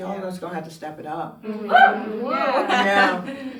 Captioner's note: cheering